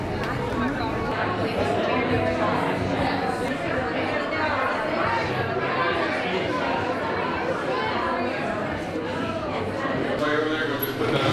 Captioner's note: crowd Noise